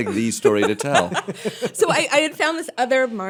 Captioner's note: laughter